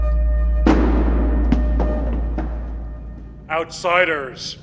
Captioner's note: helmet clattering